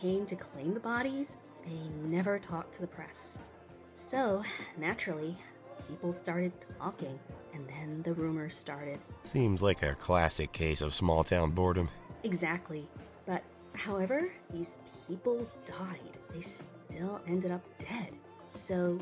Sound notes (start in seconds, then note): none